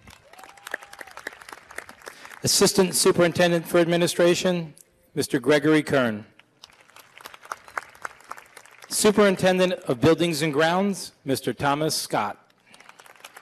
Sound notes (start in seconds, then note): 0.0 applause; 6.5 applause